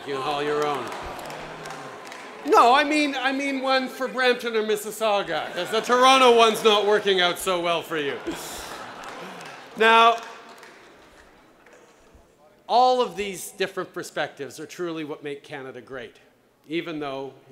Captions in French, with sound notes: de hockey. Non, je parle d’une équipe de Brampton ou Mississauga, parce que celle de Toronto ne fonctionne pas très bien pour vous. (Rires) Maintenant, tous ces différents points de vue sont vraiment ce qui fait du Canada un endroit formidable même si, vous savez, certains